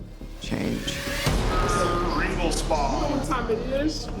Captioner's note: indistinct chatter